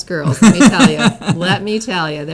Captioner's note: laughs